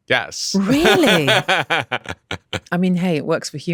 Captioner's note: laughs